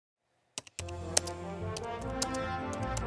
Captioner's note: typing; instrumental music